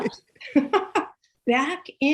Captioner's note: laughs